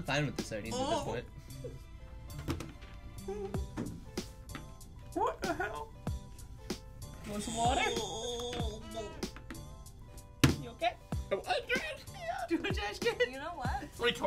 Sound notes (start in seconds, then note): 3.6 whimpers; 7.3 groans; 11.0 choked up